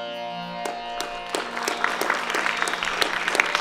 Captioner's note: applause